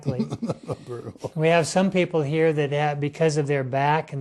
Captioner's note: chuckle